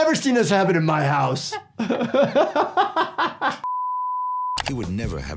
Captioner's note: laughing